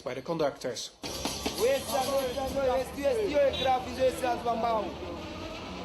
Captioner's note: speaking swahili